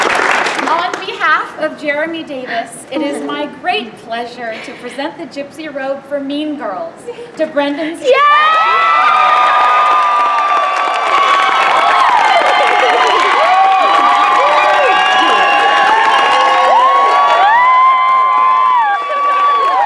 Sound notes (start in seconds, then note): 8.0 cheers